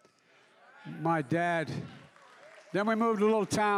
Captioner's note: applause